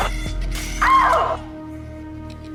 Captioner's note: Lou Ann screaming in the background